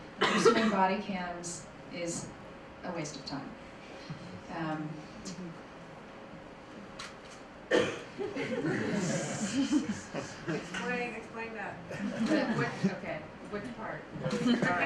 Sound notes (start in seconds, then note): 8.2 laughter; 11.0 voiceover